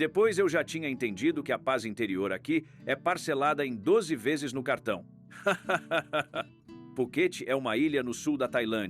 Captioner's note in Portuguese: risadas